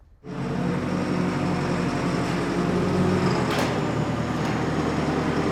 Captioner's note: forklift engine running